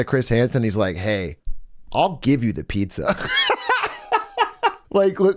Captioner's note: laughs